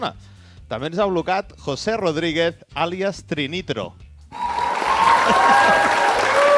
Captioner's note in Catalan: Aplaudiment